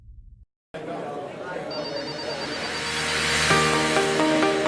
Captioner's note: background chatter; telephone ringing; upbeat, bouncy music